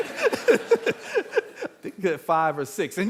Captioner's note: all laughing